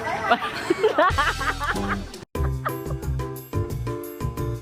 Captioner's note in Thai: เสียงหัวเราะ